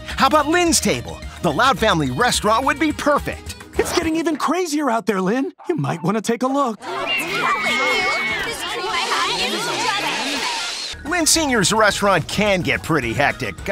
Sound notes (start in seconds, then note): 6.8 eagle screeching; 8.9 screaming